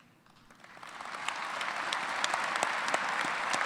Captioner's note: applause